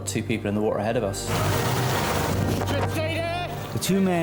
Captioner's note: lifeboat engine whirring